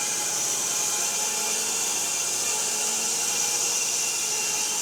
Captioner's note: saw buzzing